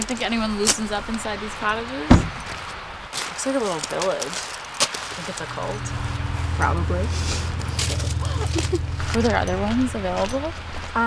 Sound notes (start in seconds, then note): 2.1 car door slams; 8.2 Naomi laughs